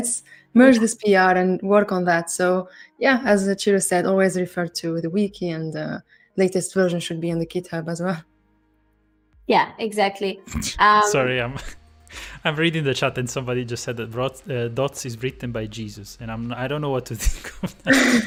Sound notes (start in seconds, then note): 11.1 chuckles